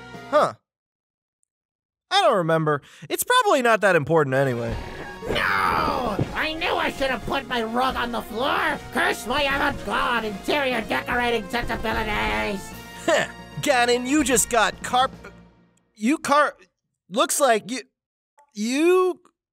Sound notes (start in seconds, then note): 5.1 magical zap; 13.4 stammering